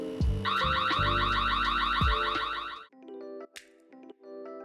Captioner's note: alarm sounding